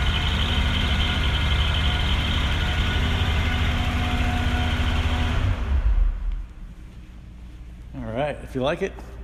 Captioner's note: engine Noise